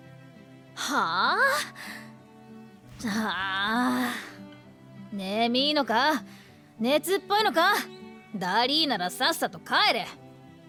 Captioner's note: siiiigh